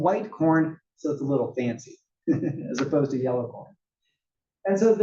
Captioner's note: laugh